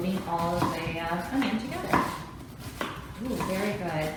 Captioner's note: chopping